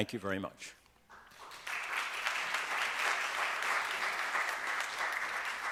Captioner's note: audience applauds